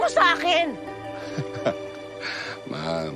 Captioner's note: diego chuckles